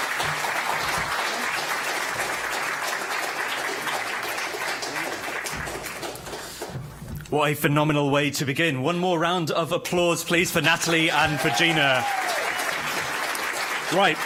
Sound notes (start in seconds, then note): 5.3 applause